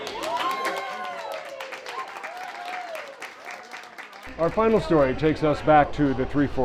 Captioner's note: crowd cheering